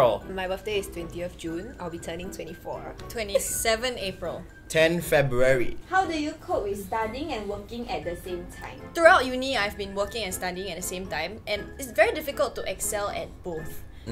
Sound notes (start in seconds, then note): none